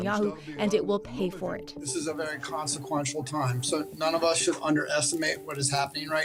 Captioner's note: speaking alternate language